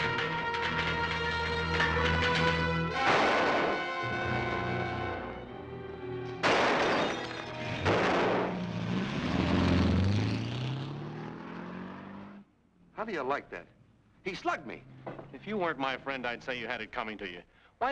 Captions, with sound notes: (gun fires) (dramatic music) (gun firing) How do ya like that? He slugged me. - If you weren't my friend I'd say you had it coming to ya.